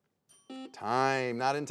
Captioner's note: buzzer beeps